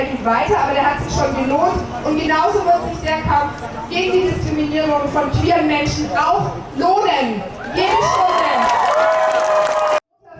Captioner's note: applause